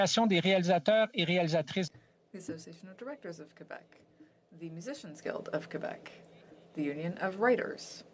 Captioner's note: speaking French